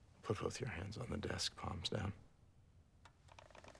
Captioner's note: none